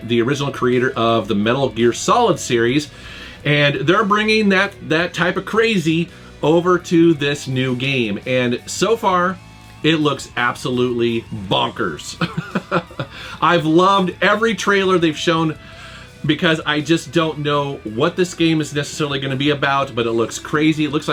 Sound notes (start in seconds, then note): 12.1 laughs